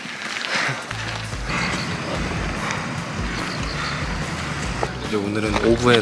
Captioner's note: exhale and inhale